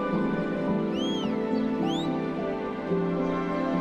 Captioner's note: whistling; soft dramatic music